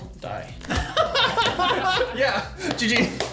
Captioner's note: laughing